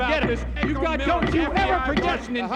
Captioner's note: gavel banging